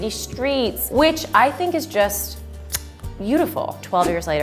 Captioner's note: kissing